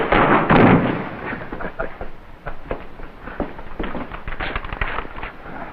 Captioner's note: Adam laughing